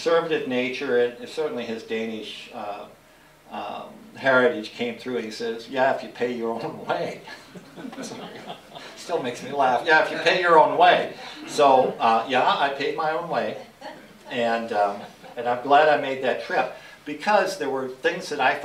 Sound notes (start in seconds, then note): 7.3 laughter